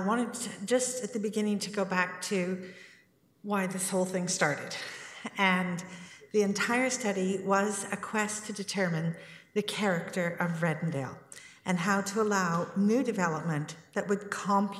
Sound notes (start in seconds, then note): none